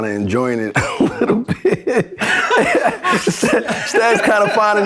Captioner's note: laughter